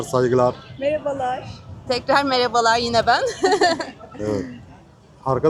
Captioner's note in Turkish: kahkaha